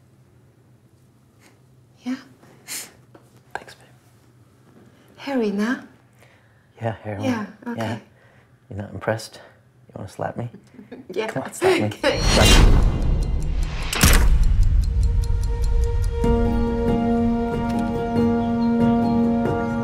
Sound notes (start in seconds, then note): 12.1 boom resounds; 12.8 clock ticking; 16.2 calm piano music